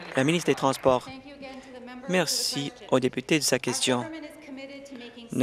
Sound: applause

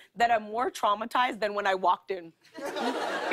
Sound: laughter

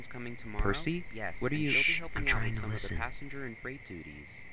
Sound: distant chatter; whispers

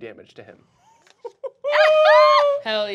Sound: laughing

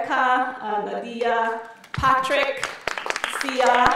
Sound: audience applauding

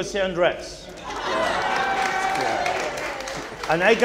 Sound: audience cheering

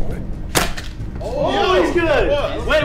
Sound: crashes

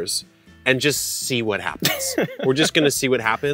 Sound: laughing

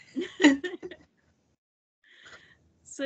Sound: both laugh

